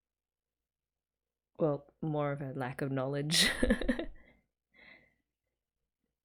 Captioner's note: laughs